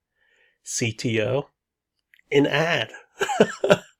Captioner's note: laughs